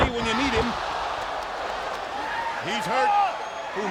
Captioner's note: crowd exclaiming